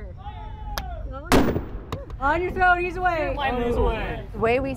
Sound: gunshot blasts

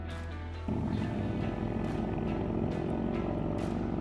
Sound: engine revving

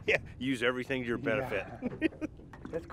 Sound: chuckling

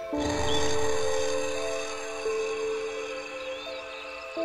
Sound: crickets chirping

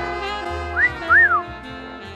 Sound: whistling

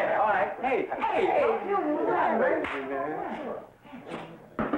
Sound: men muttering

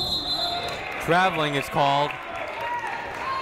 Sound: whistle blowing

